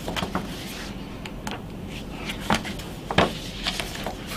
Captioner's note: pages rustling